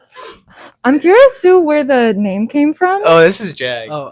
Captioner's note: everyone laughing